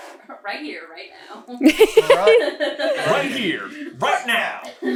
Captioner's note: laughter